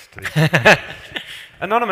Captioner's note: laughs